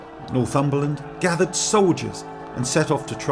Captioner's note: battle cries